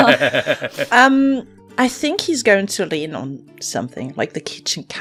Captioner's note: laughter